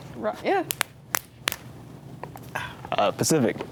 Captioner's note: hands slapping